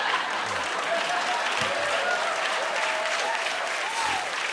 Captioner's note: laughter; cheers and applause